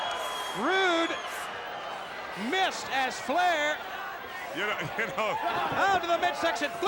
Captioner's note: laugh